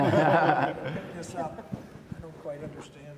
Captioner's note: panel laughs